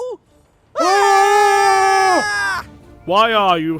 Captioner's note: both scream